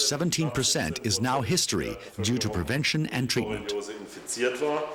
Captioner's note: speaking in foreign language